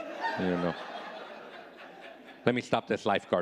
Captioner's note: audience laughing